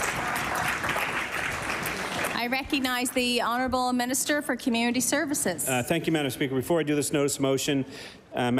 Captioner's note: applause